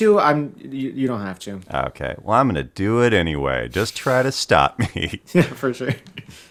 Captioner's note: laughter